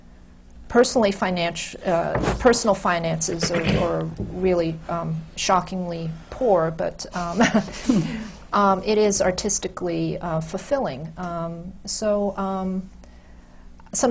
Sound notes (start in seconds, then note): 7.4 laughs